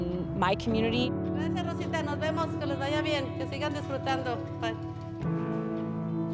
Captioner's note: speaking in Spanish